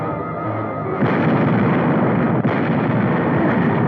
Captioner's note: dramatic music; guns firing